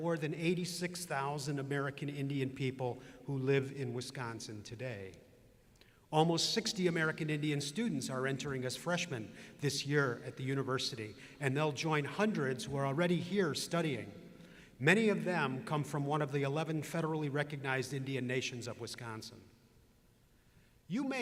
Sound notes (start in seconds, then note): none